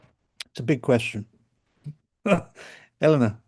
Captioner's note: laughs